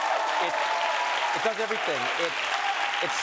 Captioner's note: applause